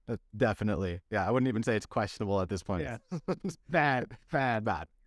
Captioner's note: laughter